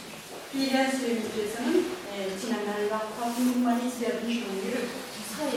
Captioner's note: speaking Korean